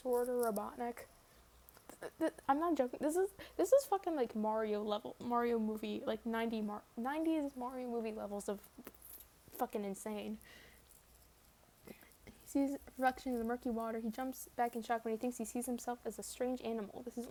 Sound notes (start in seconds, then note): 1.7 sputters